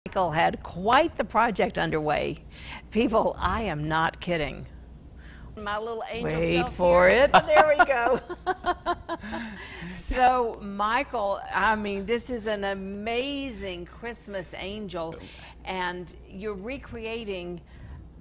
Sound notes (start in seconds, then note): 7.3 laughs; 9.4 both laugh